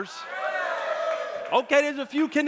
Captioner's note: audience cheering